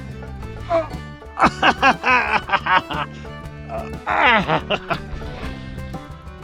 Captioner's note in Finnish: tuskaista naurua